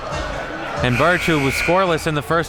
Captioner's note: buzzer buzzes